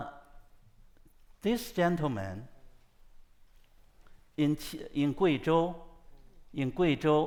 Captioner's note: speaks foreign language